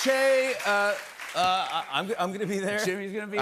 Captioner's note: cheers and applause